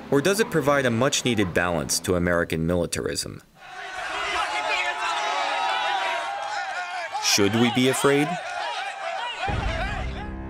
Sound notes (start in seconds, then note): 4.3 shouting